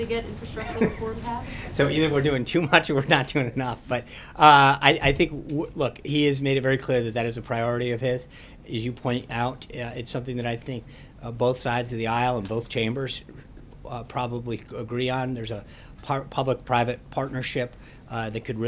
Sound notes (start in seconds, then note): 0.4 laughter